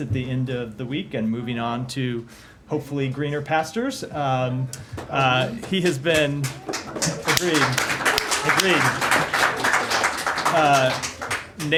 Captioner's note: applause